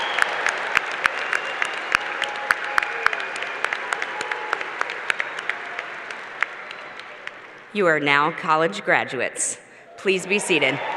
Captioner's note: cheers and Applause